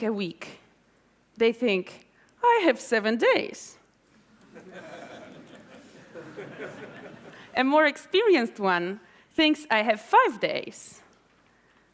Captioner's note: laughter